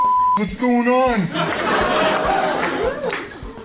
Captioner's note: laughter